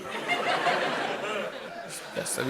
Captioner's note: laughter